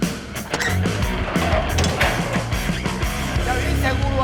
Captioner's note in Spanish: Sonido al cerrar la puerta